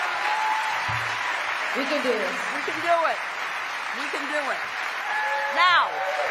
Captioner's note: cheering